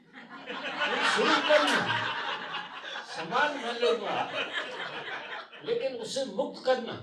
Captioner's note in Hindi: हंसी